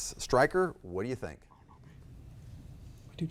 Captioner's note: faintly speaking